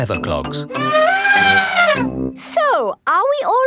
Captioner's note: trumpeting